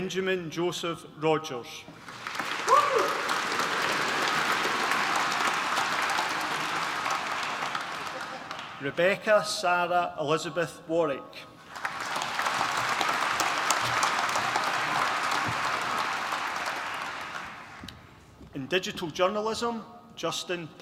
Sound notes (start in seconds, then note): 2.0 applause; 11.6 applause